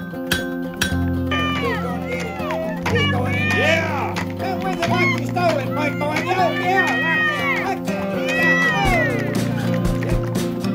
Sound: metal banging; crowds cheering

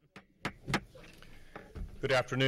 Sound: hits gavel

